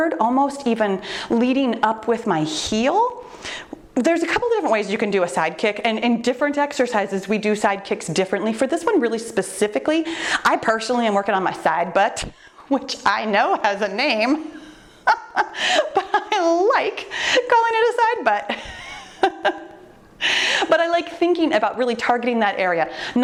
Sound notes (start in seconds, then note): 18.6 laughing